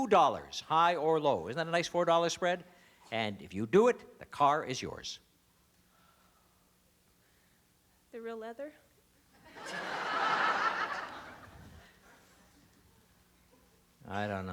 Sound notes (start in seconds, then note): 7.2 laughter